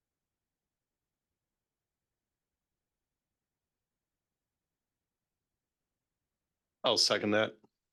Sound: silence

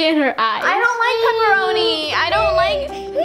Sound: baby laughter

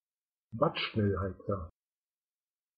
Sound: fast Pronunciation

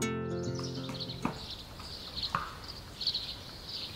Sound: sounds of the forest

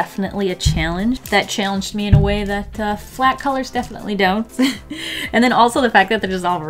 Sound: laughs

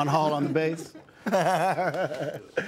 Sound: laughs

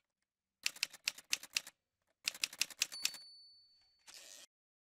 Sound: typewriter sounds

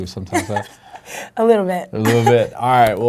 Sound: laughing

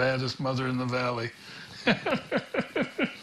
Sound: laughs

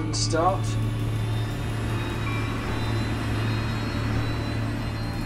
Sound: plane whirring

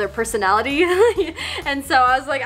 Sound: laughing

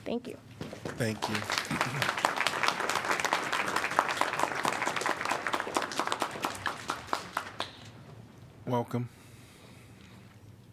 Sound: applause

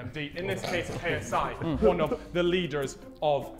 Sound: Sidemen snickering

